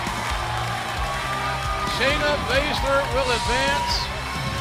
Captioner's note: cheers and applause